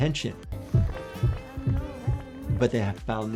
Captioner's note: gentle music; heart pounding